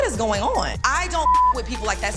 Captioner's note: beep